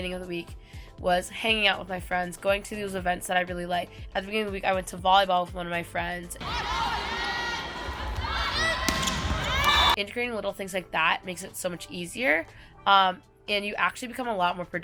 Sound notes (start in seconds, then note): 6.4 players yell; 6.9 whistle Blows